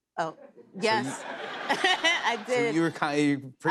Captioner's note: laughter